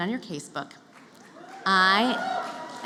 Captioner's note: cheering